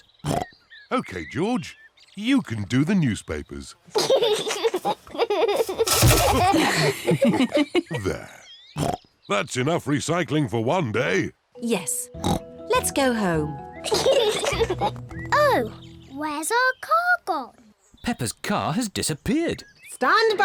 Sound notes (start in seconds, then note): 0.0 snorts; 4.0 giggles; 8.8 snorts; 13.8 kids giggle